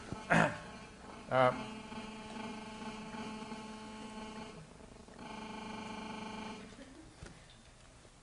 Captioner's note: rumbling continues